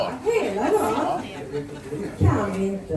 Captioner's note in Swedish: skratt